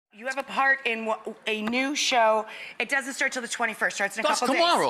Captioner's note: none